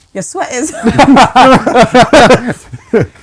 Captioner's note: laughing